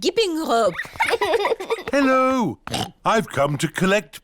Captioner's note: oinks